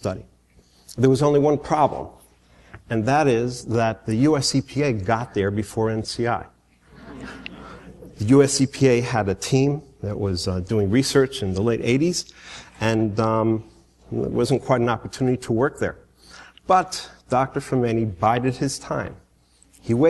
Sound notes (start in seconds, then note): 6.9 laughter